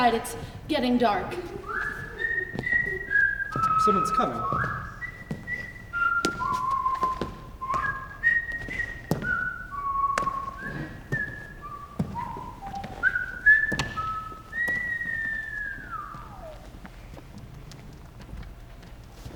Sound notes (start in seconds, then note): 1.7 whistling; 5.1 whistling continues